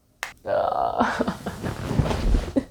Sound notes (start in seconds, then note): 0.4 groans